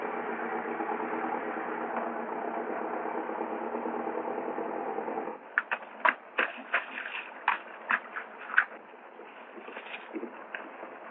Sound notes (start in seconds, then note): 0.7 truck rattling